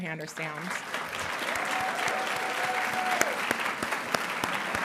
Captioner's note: audience applauding